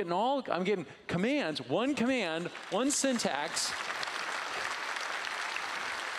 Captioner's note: applause